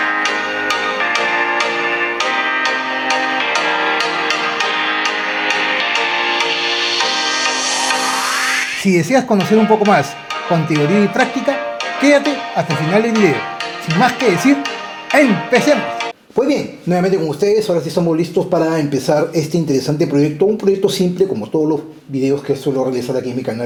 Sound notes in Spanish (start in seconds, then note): 0.0 campana